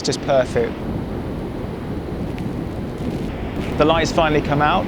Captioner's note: wind blowing